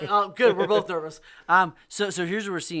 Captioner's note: laughs